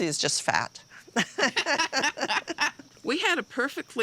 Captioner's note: both laughing